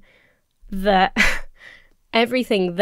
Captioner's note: chuckles